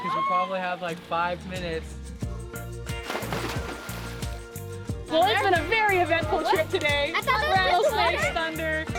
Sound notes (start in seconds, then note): 2.2 gentle upbeat music; 3.0 water splashes